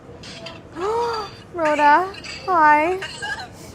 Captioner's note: gasps